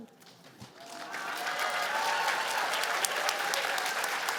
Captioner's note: cheers and applause